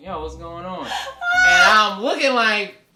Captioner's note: laughs